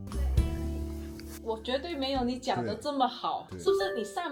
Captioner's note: Mandarin